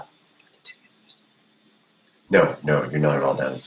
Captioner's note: whispering